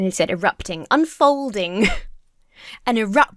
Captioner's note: laughs